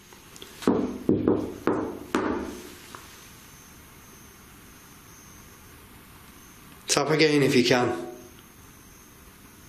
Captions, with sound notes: (knocks) Tap again, if you can.